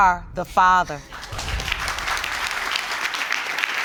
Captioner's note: audience applauding